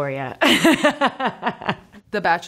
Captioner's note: Lily laughing